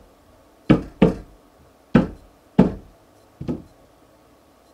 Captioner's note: banging